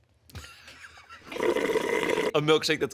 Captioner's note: slurps loudly